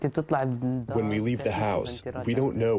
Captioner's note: through translator